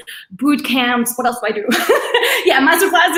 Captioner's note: laughs